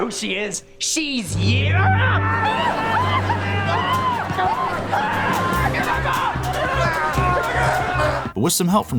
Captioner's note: screaming